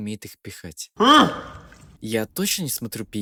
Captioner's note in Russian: Непонятный стон